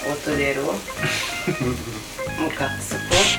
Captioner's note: laughs